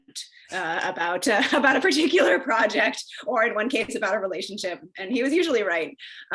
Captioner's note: laughs